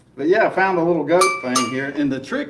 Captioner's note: goat bell rings